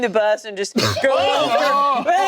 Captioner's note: group exclaiming